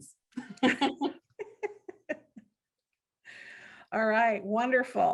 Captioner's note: both giggling